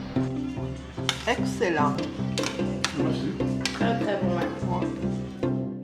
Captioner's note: speaking in foreign language